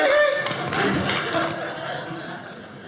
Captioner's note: audience laughing